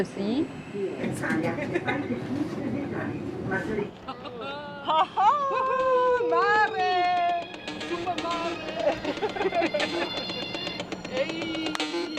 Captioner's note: laughter and train station chatter